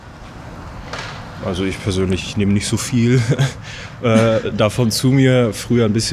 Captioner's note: laughs